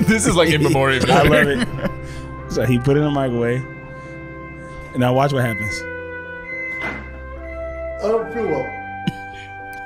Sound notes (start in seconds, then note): 6.1 microwave beeping